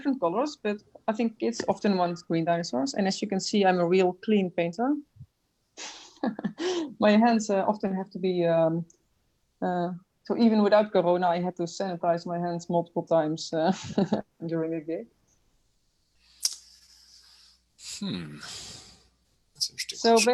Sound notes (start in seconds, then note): 6.0 laughs